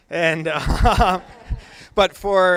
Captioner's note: laughter